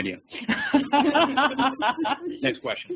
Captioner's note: laughs